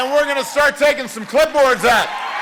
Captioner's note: cheering and applause